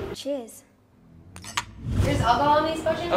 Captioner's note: glasses clinking